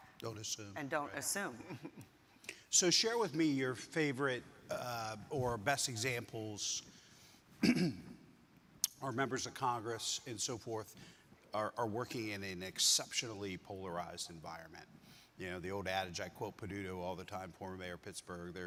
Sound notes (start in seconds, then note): 1.6 chuckles; 7.6 clears throat